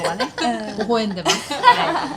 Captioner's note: laughs